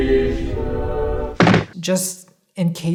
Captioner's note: thudding